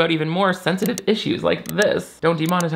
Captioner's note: mouse clicking